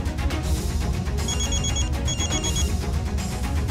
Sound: mobile phone ringing

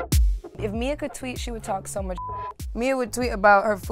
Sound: beep

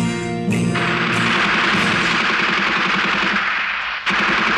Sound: gunfire

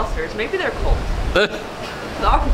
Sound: laughing

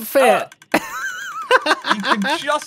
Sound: laughs

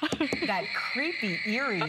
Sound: laughter

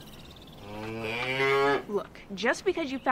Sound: cow moos

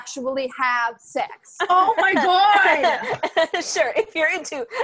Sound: sarcastic laughter

